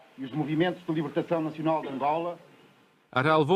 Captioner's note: non-english speech